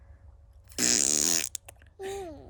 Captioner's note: sound of flatulence with the mouth